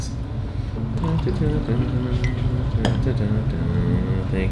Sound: humming

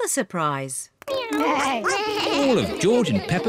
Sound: all making animal sounds

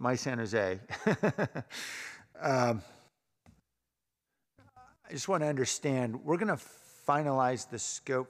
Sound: laughter

